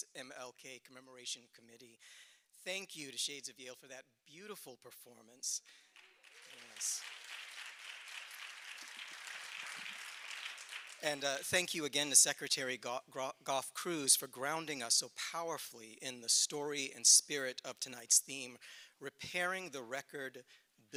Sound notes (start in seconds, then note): 12.7 applause